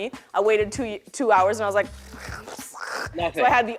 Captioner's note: scoffs